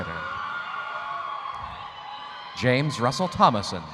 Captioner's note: audience cheering